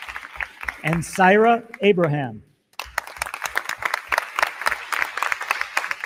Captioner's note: crowd clapping